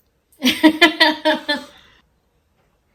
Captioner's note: laughs